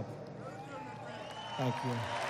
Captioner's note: applause